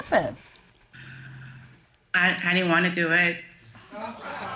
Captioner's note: exhaling